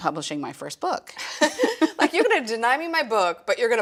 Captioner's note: laughs